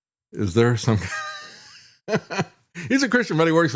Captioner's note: laughs